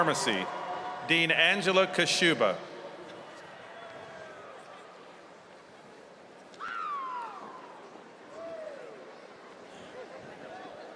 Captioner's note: cheers and applause